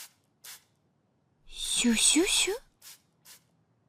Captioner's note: note: SFX for the sound a spray makes